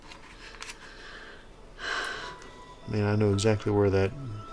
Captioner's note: breathes deeply